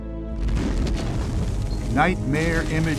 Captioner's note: explosions boom